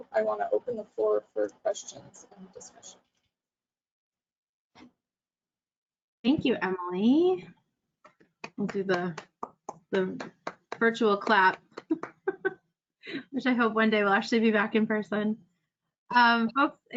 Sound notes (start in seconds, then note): 10.1 applauds; 11.4 laughs